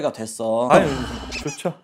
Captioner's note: sigh